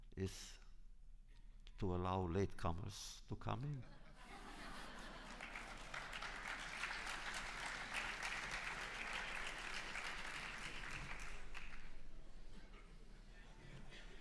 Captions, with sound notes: is to allow latecomers to come in. (laughter) (applause)